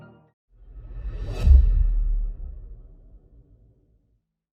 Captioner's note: logo bangs